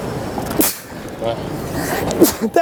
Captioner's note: sneezes